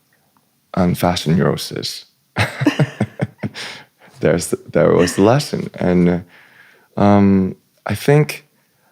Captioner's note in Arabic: ضحك